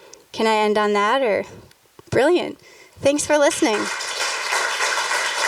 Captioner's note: applause